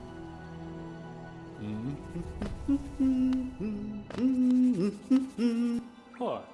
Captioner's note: SFX: Cornifer humming